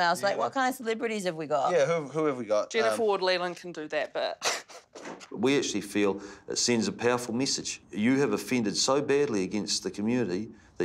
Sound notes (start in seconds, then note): 5.1 laughs